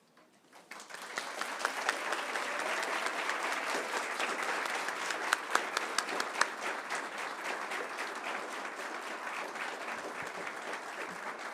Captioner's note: applause